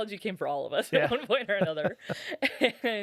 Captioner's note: laughing